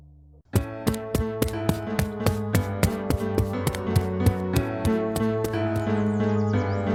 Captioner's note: running